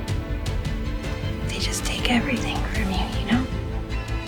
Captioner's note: voiceover